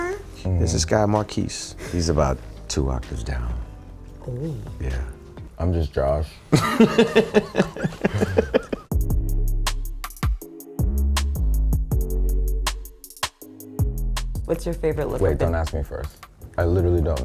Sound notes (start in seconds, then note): 6.5 laugh; 8.4 electronic music plays